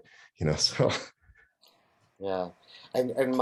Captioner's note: laughs